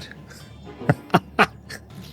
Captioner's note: laughs